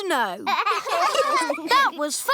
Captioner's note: laughter